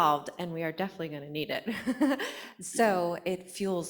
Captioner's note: laughs